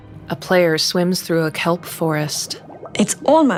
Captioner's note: bubbling